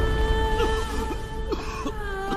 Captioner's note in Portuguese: tosse